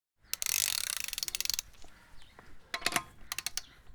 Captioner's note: ratchet tightens, birds sing